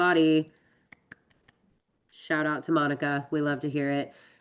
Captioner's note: clapping softly